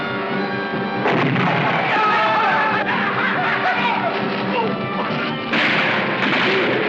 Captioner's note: explosion; shouting